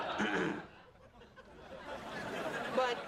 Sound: clears throat

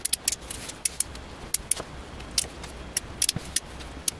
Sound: high speed sounds of pins hitting magnetic pin cushion

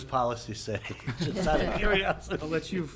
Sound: laughing

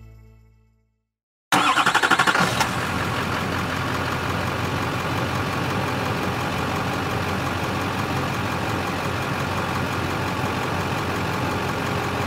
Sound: bright Music; car Engine Revving

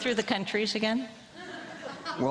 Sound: laughter from crowd

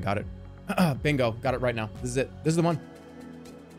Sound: clears throat

